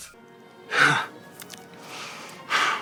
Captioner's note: le deep sigh